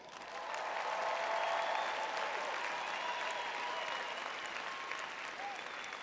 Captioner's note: crowd cheering